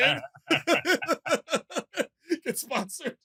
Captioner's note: laughter